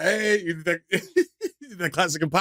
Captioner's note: laughter